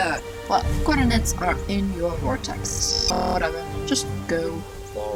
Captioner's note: glitch